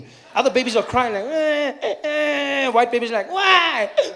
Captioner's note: baby crying softly